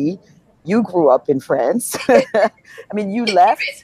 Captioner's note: laughs